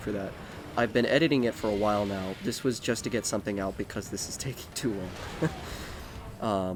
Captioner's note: nervous laugh